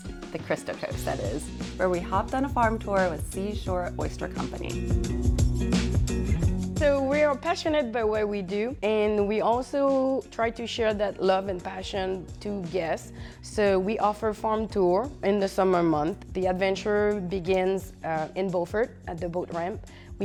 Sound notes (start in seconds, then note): 4.8 upbeat music; 6.7 french Accent